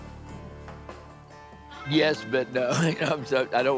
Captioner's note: laughs